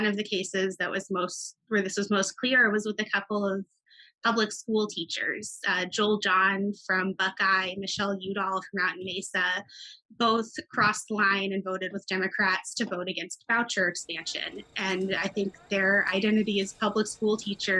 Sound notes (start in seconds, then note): 14.7 children chattering